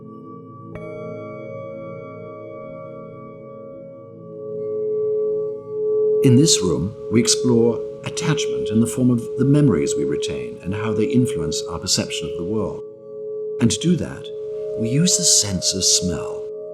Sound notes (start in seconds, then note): 0.7 sharp Tibetan bowl sound